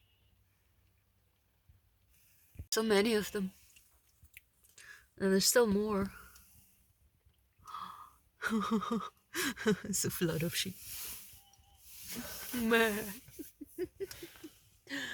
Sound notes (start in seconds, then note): 8.4 laughs; 12.7 imitates sheep